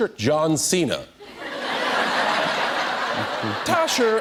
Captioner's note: speaking Mandarin; laughter; speaking Mandarin